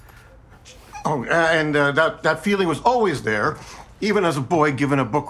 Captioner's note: stuttering